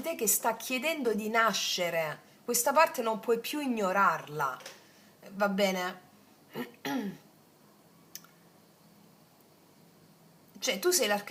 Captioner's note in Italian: schiarire la voce